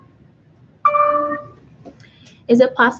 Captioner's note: computer dings